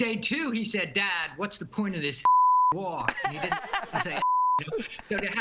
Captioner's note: laughter